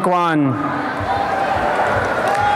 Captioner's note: applause and cheering